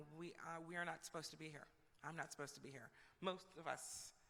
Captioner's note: none